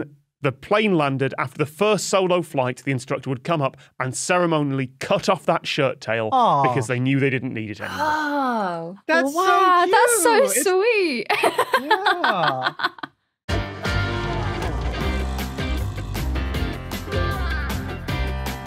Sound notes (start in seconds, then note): 11.2 laughs